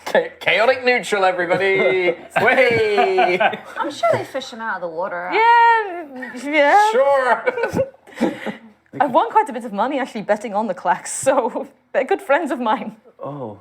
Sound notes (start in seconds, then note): 6.0 unconvincingly